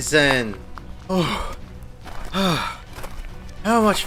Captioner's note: heavy breathing